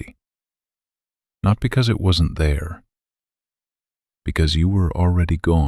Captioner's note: pause